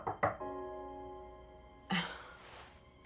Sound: knocking on door

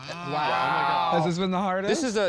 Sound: chuckles

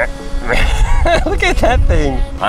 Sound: laughs

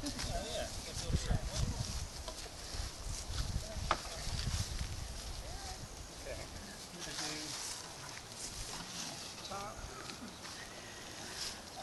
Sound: sound of drill and people moving around

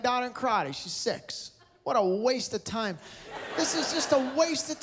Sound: laughter

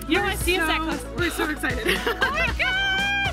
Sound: laughing

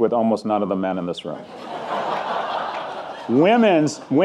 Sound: audience laughing

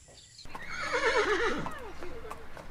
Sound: horse neighing

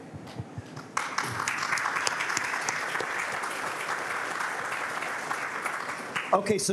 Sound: applause

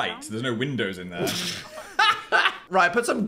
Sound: laughs

